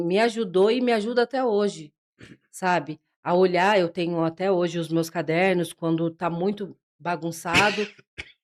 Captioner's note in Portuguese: limpando a garganta